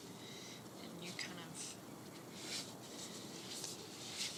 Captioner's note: none